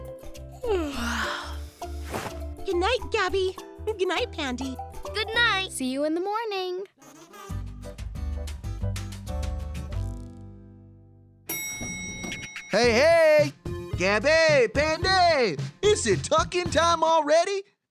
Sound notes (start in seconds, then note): 0.6 yawns; 11.3 elevator dings